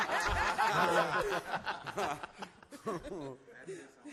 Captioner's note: all laugh